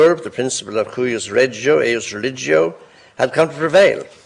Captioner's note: foreign language